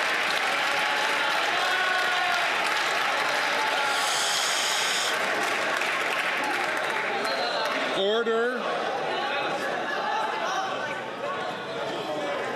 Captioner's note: some Applause